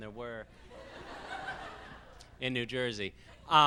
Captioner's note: laughs